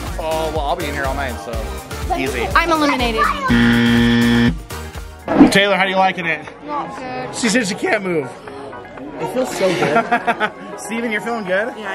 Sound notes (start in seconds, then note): 3.4 buzzer